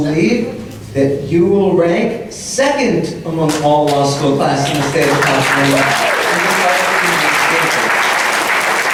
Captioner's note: loud applause